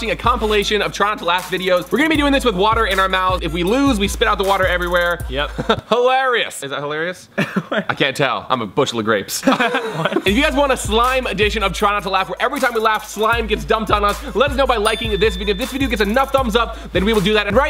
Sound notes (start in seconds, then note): 5.4 chuckles; 7.3 laughs; 9.4 laughs